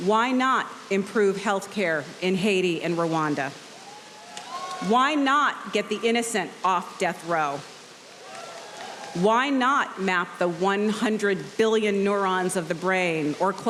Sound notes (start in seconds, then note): 3.7 audience cheering; 8.1 audience cheering